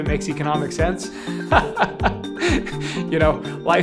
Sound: laughs

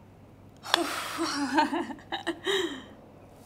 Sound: Jenna giggles

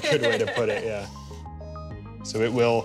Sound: laughs

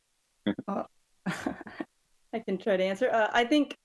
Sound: laughs

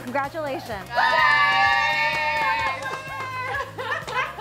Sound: cheering

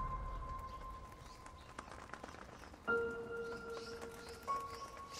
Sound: bird wings flapping

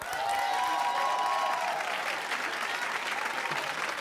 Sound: cheers

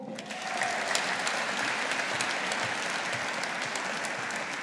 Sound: audience applauding

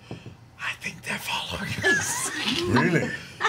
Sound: whispers

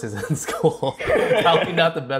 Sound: laughs

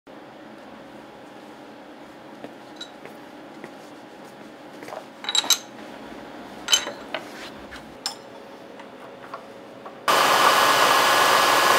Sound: machine lab noise

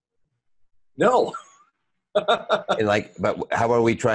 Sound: chuckling

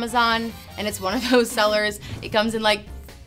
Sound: chuckles

